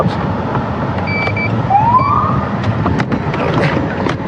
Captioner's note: siren chirprps